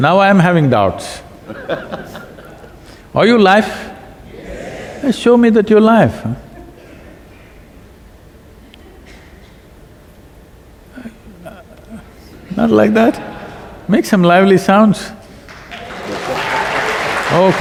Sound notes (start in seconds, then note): 1.4 Piyush Pandey laughs; 10.9 few laugh; 15.4 applause